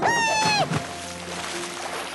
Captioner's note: splash